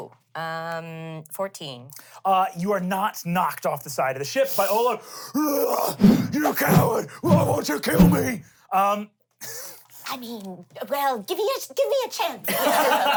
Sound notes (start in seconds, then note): 6.0 roars